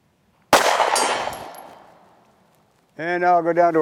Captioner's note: gunshot fired